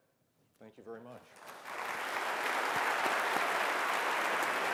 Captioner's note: applause